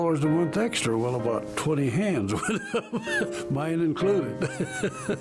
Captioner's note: laughing